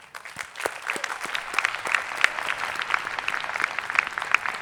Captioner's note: attendees clapping